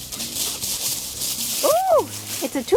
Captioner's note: leaves rustling